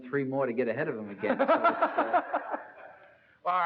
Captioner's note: laugh